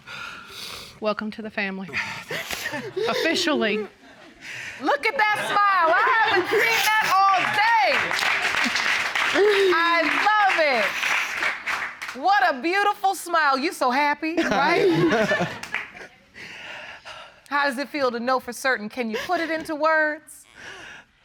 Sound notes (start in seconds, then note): 14.4 laughs